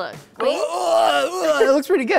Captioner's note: groans